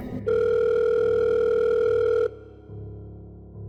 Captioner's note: unknown number calling